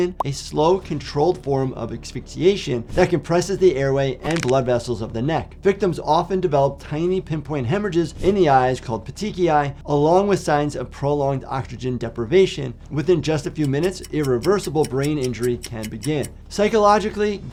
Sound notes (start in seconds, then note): 4.2 neck crunches; 13.5 clock ticks